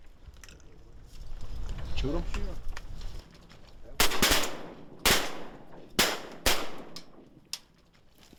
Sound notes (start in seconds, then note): 4.0 gunfire